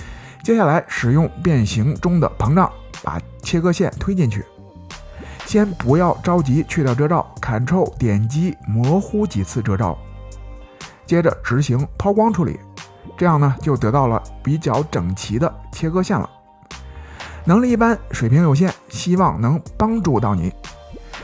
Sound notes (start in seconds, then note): 12.0 Polish